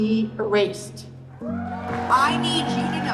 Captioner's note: applause